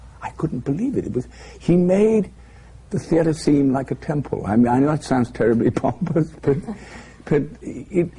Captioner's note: laughter